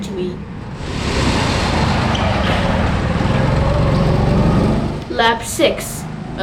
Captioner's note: go-kart engine noise intensifies